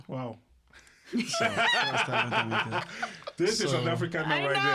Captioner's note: laughter